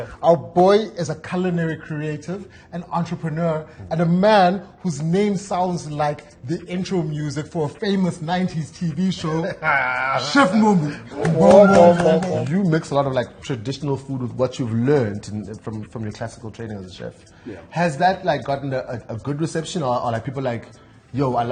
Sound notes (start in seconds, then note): 11.1 laughter & Applause